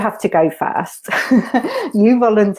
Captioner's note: laughs